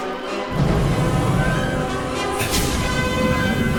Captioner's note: sound of rushing gas igniting